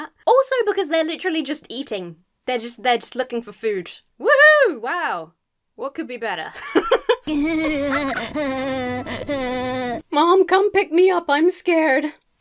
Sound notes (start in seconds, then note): 6.5 laughs; 7.2 fish giggling eerily